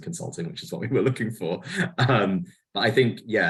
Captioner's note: laughs